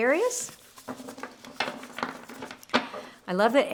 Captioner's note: cards clattering